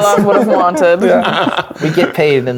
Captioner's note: players laughing